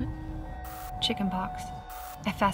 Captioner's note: static crackles